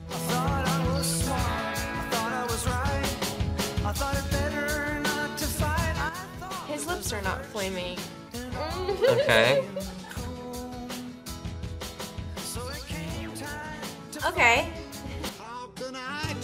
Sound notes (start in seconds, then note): 8.6 laughs